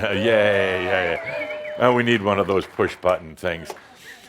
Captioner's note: audience whistles and some applause